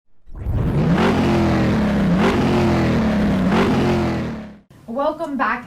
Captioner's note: car engine revving